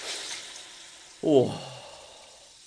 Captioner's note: surprised gasp